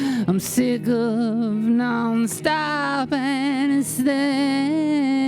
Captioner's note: none